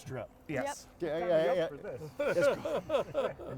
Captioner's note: chuckles